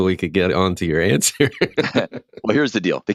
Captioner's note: laughs